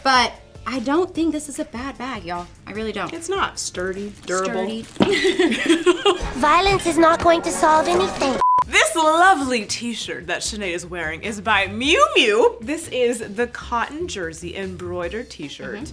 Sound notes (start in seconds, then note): 5.0 hosts laugh; 8.4 beep